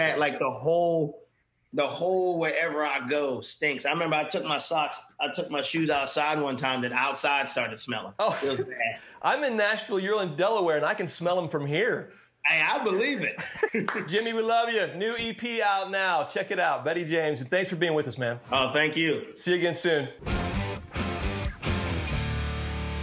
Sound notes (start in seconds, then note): 13.2 laughing; 20.2 upbeat music